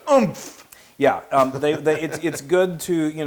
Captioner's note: laugh